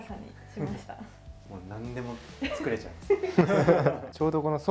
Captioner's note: laughs